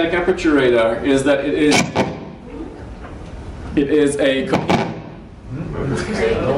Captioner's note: sound interference